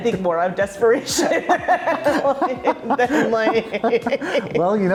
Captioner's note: both laughing